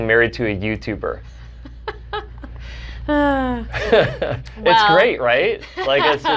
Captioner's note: chuckles